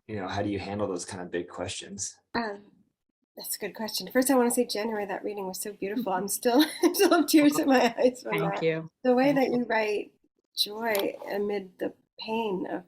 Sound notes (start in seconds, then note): 7.0 laughs